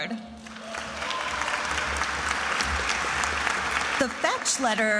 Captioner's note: attendees applauding and cheering